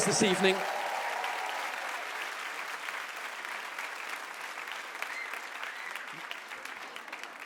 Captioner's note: audience cheers and claps